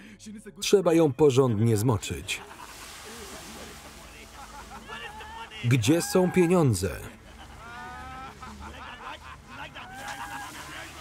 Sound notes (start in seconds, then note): 2.0 water spraying; 6.2 ominous music; 6.9 laughing maniacally